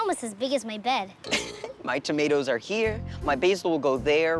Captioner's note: laughs